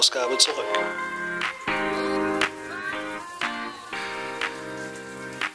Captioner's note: woke-ad playing